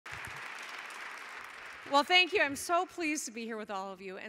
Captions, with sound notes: [audience clapping] - Well, thank you. I'm so pleased to be here with all of you